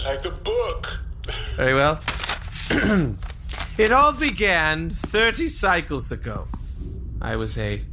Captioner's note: clears throat, reads dramatically